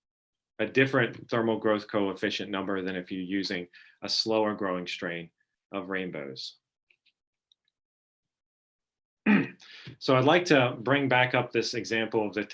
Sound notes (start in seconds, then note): 9.2 clearing throat